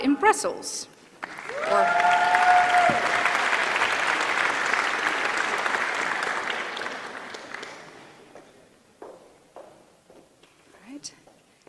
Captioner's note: applause